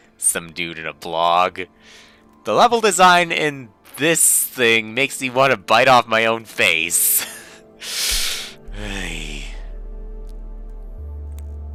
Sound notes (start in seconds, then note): 7.2 breathing